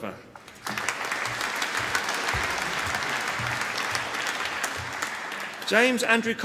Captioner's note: applause